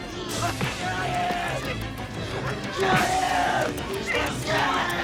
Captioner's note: shouting